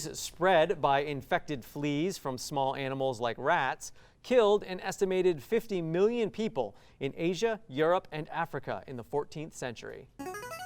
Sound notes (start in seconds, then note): 8.7 ring-in sound